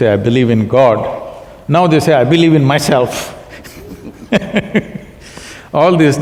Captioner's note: both laugh